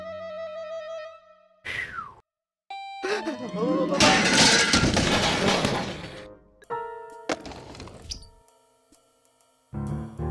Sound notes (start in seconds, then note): 1.7 exhales; 3.2 gasps